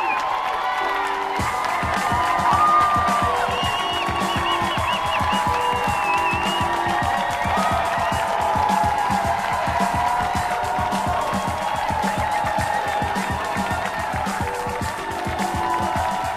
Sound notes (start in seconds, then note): 0.1 audience applauding; 5.0 upbeat music; 7.7 audience cheering